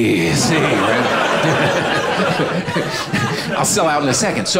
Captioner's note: audience laughing